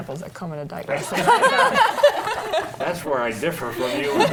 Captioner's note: panel laughs